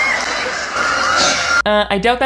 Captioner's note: audience cheering